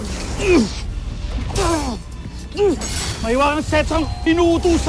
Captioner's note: grunting; weapons swishing & clanging